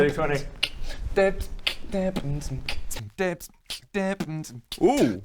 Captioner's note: even more beatboxing